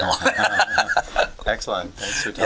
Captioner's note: laughter